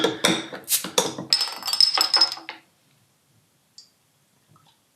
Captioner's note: bursting of air